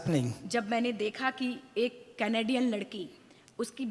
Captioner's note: speaks foreign language